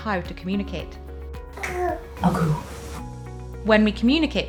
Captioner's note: babbles; imitates babble